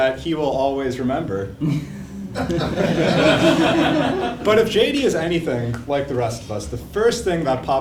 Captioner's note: laugh